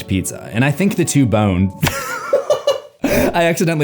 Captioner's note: laughs